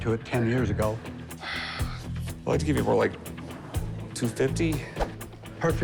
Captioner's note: sighs